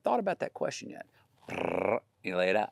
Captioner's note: Matthew vocalizing